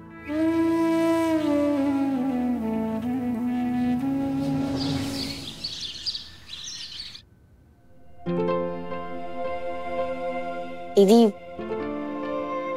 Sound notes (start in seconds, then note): 0.0 somber music; 4.3 birds chirping